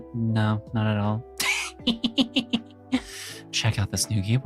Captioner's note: laughs